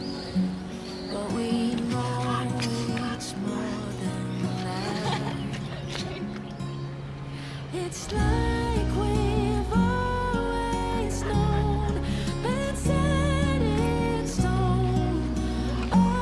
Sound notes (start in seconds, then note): 5.0 Charlotte laughing